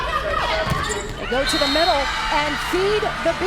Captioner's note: voiceover; whistle blows